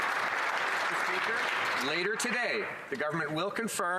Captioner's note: some Applause